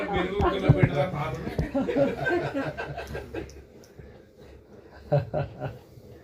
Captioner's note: laughs